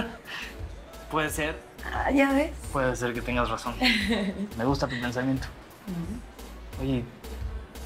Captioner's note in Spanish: Ríe